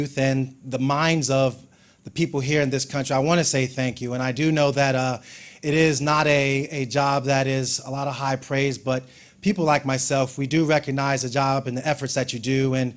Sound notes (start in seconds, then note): none